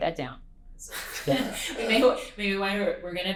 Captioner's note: laughter